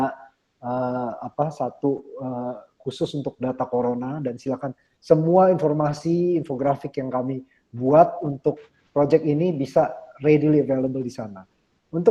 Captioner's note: speaking indonesian